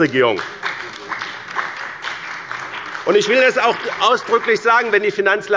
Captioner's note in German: Beifall bei dem BÜNDNIS 90/DIE GRÜNEN und der CDU